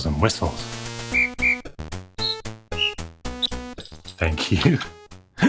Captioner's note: electronic music; whistle blowing